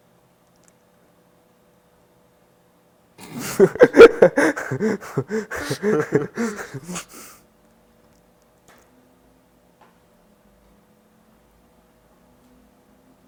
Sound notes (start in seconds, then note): 3.2 laughing suddenly